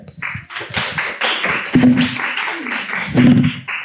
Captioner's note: applause